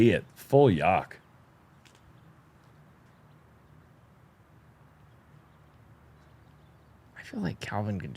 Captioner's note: silence